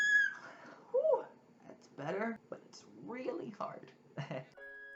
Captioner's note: nervously laughs